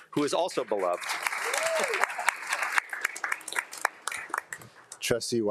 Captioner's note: attendees applauding and cheering